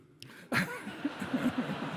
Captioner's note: laughter